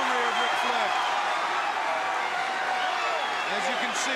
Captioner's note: crowd cheering